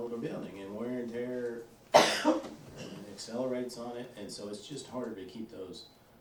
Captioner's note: coughs